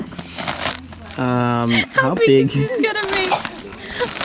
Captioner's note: laughs